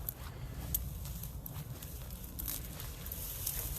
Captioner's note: grass rattling